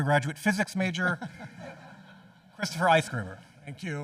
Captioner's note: everyone chuckling